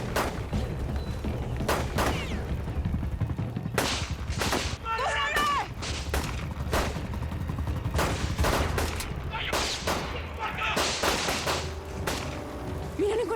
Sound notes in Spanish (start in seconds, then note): 0.2 Disparos